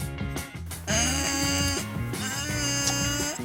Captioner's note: grunts